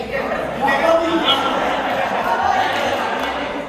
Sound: laughing

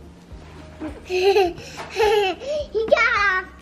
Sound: laughs

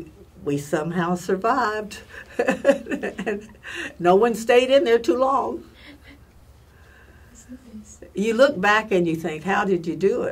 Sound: laugh

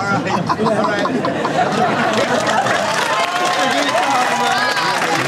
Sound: crew laughs and cheers

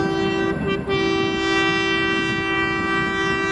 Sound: train Horn

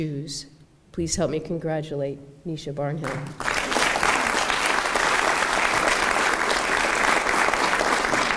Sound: applause

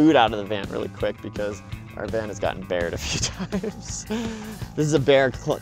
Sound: laughs

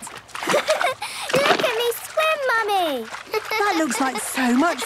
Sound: giggles

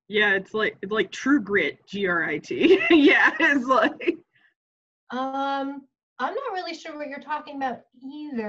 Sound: laughs

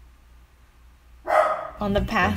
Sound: ruff!

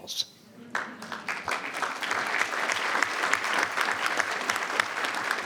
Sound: audience applauding

